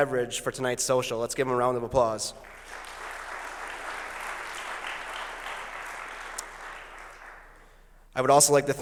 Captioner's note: applause